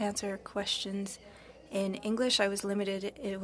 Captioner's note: speaking French